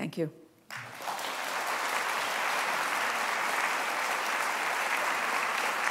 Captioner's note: applause